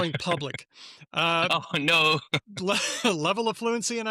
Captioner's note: laughs